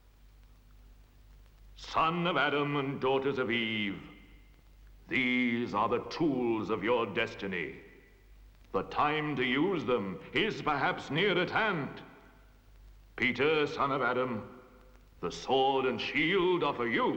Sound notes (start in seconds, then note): none